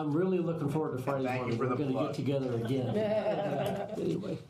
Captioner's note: laughter